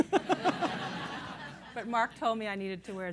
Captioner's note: laughter